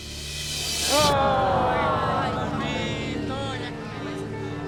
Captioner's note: crowd gasps